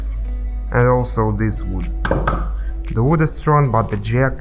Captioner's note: nock nock